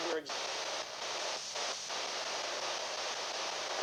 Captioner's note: male voice speaking